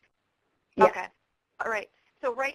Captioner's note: voiceover